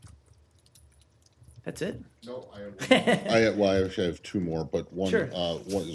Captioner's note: laughter